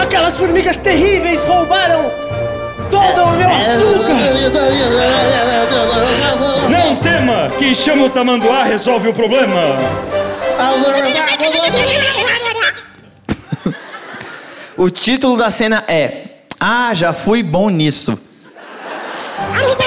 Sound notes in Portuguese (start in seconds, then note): 4.7 grunhidos; 11.8 campainha